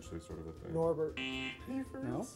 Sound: buzzer

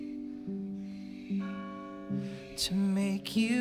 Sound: bell rings

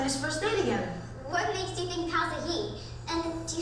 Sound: voiceover

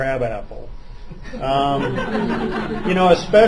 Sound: laughter

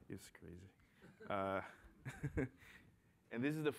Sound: laughter

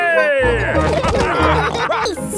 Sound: all laughing

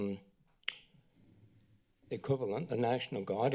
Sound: clicks tongue

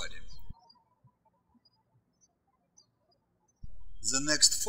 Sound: birds chirping

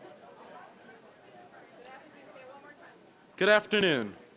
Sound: general chatter

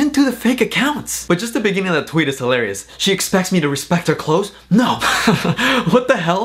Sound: laughs

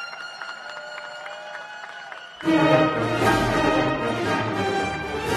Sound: cheers and applause

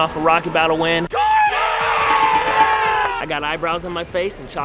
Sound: cheering

